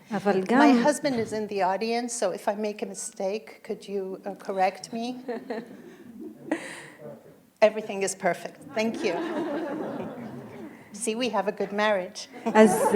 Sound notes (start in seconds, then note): 8.5 audience laughing